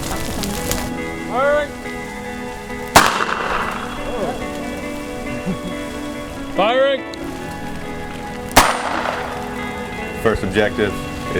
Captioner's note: sound of pistol shot and then murmurs